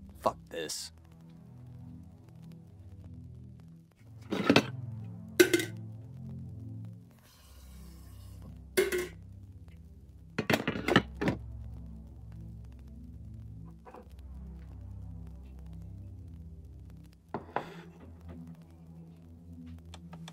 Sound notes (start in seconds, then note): 2.3 tense music; 7.7 water running; 10.1 tense music